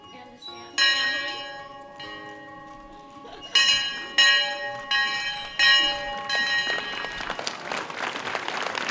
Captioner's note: train Bell ringing; applause